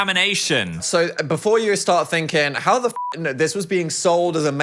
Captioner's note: beep